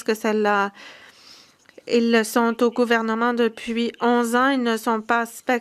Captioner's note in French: voix de l'interprète